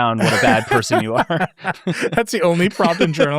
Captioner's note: laughing